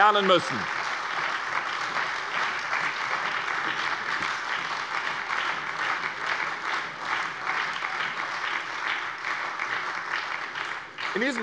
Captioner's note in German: Beifall bei der SPD sowie bei Abgeordneten der LINKEN und der FDP